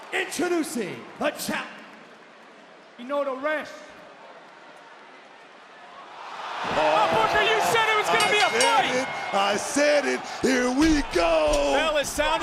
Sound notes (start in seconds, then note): 7.6 bell rings